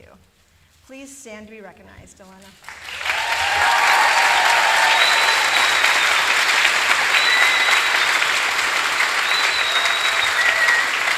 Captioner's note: applause